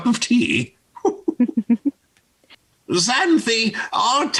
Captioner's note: both laughing